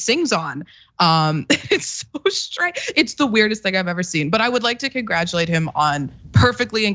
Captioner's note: laugh